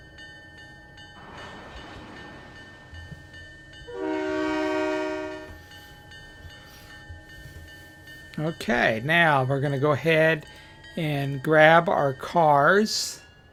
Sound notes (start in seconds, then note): 1.4 train whistle